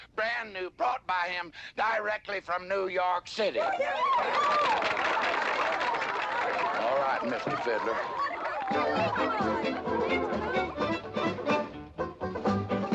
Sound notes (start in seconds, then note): 4.1 audience applauding excitedly; 7.1 lively dance music